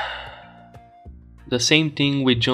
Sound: sigh

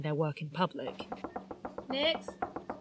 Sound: rapid knocking on door

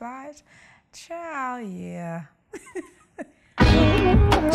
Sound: laughs

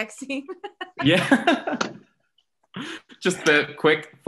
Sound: laughs

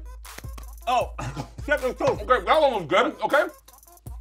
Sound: mumbles with mouth full

